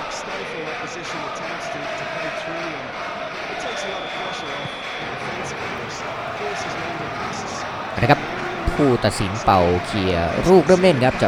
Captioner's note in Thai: ปรบมือ